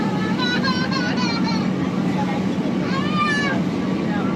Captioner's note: child yells